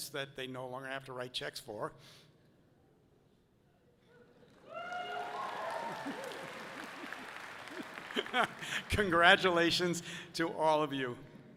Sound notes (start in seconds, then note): 4.6 audience cheering loudly; 7.6 laughs softly